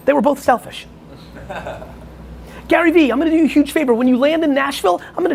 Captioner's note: laughing